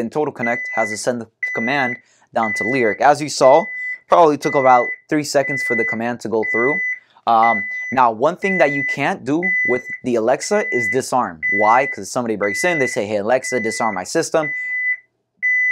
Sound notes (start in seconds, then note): 6.8 alarm beeping